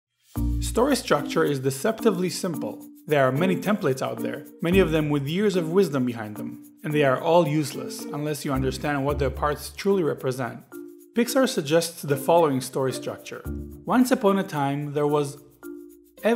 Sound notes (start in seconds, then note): 0.4 voiceover